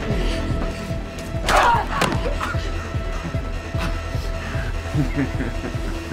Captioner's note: Christine grunts; ax thuds; suspenseful music continues; laughing